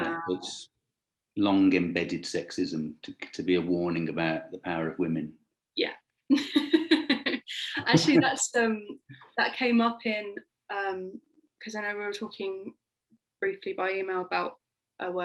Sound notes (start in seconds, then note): 6.4 laughing